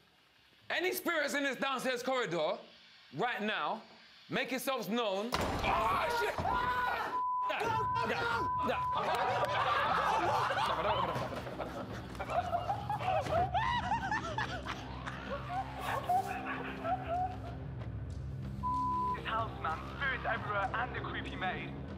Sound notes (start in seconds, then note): 5.5 banging; 5.6 screams; 8.7 raucous laughter